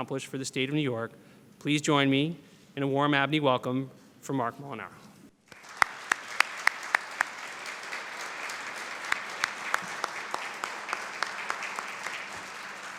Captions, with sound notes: WHAT HE HOPES TO ACCOMPLISH FOR NEW YORK. JOIN ME IN A WARM WELCOME. [APPLAUSE]